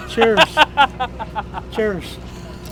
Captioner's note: man laughs